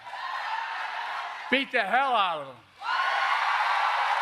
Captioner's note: applause